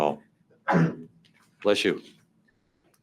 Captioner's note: member sneezes